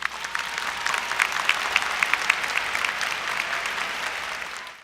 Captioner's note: applause